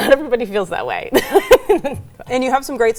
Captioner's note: laughs